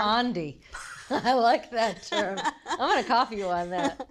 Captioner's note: laughs